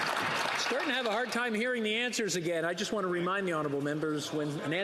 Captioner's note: some Applause